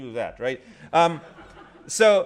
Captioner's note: laughter